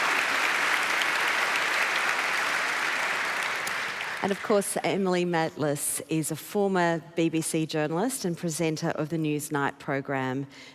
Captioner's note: applause